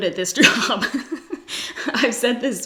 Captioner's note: laughs